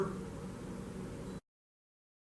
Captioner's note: silence